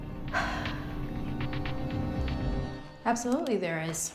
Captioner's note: Claire sighs